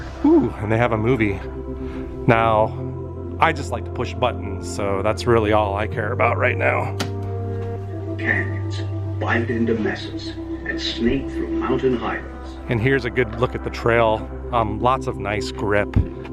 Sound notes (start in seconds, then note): 8.0 narration from movie plays in background